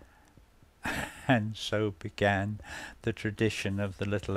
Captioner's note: laughs